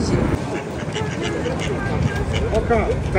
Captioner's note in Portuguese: som de patos